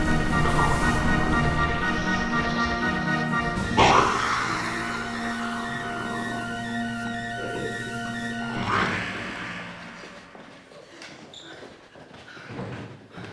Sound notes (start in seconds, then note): 0.1 dramatic music; 4.6 snake hissing